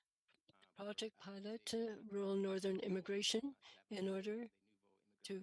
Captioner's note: speaking French